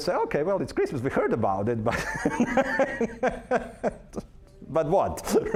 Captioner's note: laughing